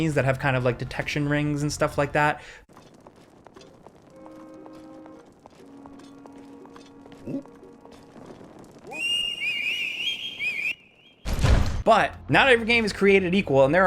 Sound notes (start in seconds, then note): 5.6 light gentle music; 8.9 guard whistling; 11.2 door slamming